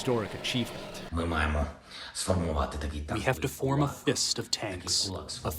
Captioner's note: through translator